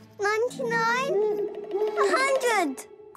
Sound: cracking; hooting

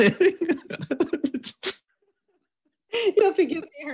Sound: both laugh

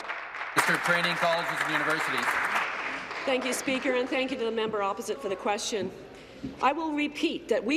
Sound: applause

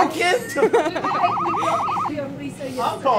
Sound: sirens wailing

